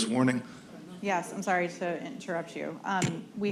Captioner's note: laughs